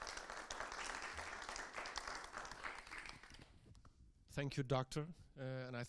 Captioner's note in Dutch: Applaus